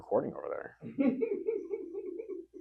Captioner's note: laughing